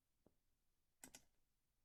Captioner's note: click